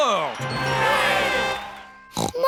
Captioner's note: crowd cheering